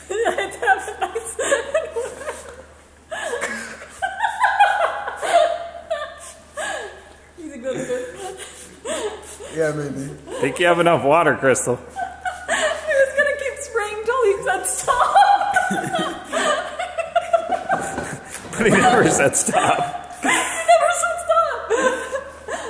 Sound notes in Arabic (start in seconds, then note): 0.5 يضحك; 13.1 يضحك; 14.7 كلاهما يضحك